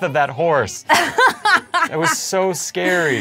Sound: laughs

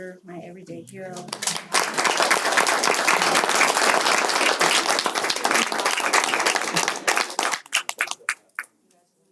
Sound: applause

